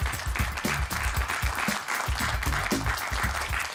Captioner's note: applause